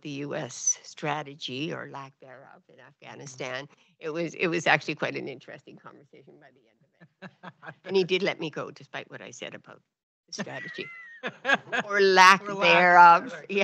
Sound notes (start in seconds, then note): 7.0 laughs; 10.4 laughs